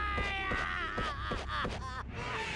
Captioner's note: crying